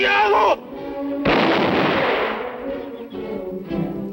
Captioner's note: speaking spanish; gunshot